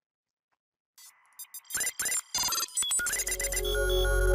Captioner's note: buttons beeping; dynamic music